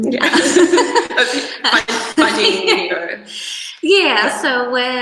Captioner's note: both laugh; laughter drowns out speaker